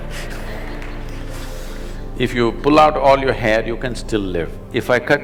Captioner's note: laughter; laughs